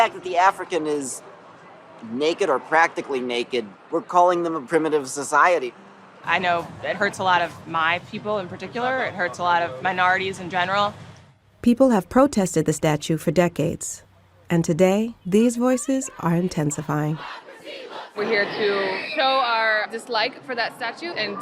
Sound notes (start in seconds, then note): 15.5 crowd chanting